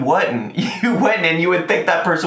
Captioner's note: laughs